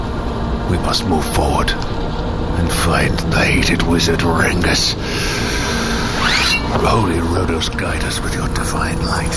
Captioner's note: draws sword